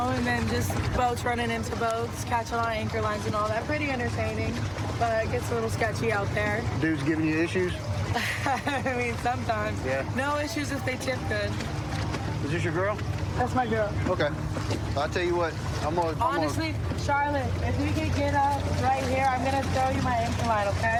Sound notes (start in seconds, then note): 8.1 laughs